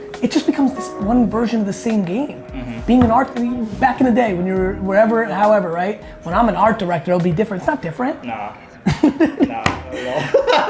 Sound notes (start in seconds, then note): 8.6 laughs